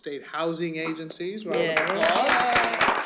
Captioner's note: applause